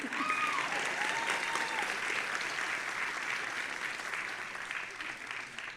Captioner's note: audience applauding and cheering